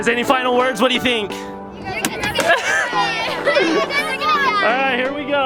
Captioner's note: kids talking over each other